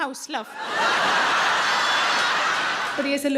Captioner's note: audience laughing loudly